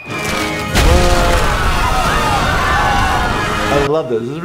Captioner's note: loud banging; people screaming